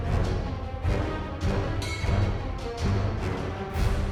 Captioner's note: none